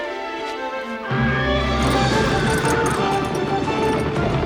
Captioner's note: horses neigh, Chariot wheels clacking